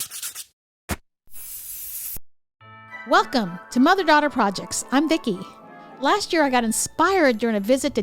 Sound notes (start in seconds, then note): 0.0 markers scratching; 1.3 spray paint can hissing